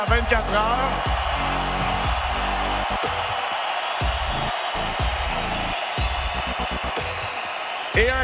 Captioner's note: cheers